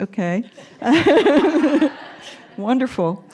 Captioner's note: laughter